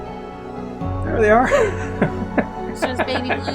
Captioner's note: laughing